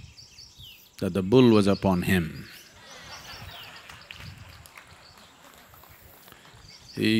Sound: laughter

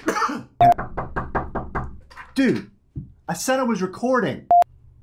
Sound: coughing; sneeze; sniffle; knocking on door

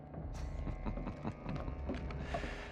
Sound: laughs

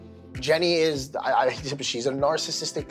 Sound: stutters

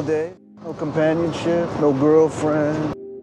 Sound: voiceover

